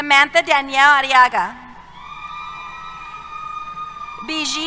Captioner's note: cheers